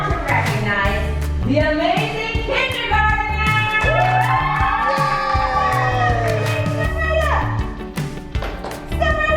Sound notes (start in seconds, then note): 3.5 family cheering